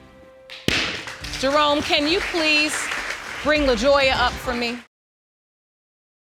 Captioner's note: audience applauding